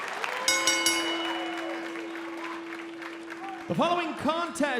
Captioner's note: bell ringing